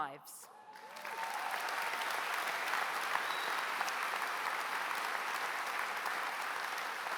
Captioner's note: applause